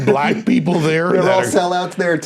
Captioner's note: laughing